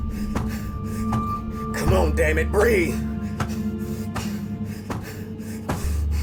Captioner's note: Cole panting